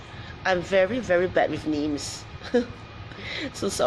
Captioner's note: laughs